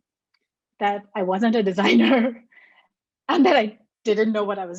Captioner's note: laughs